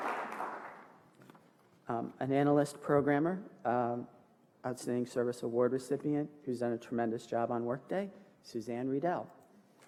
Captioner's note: applause